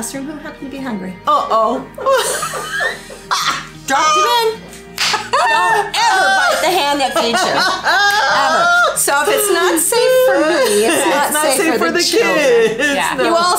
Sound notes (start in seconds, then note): 2.0 laughs; 8.7 laughs